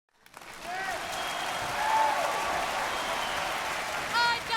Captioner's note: cheering